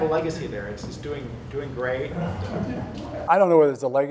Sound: laughter

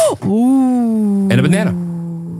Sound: laughs

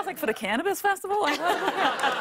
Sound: laughter

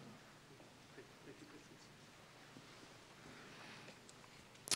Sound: none

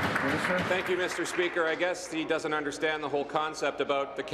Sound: applause

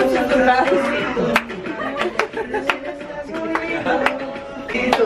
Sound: laughs; clapping to music

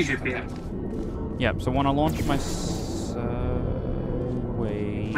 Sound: in a questioning tone

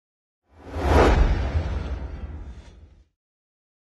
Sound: swooshing

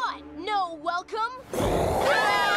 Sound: roars

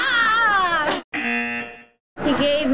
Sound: laughing; buzzer; audience laughing

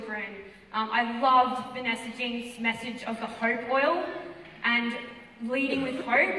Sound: none

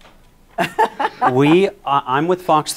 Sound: laughs

